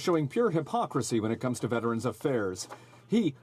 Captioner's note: speaking French